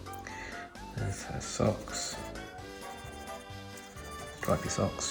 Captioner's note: pencil scribbling